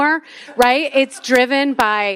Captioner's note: attendees laughing